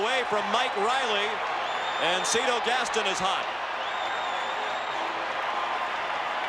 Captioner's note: cheering and Applause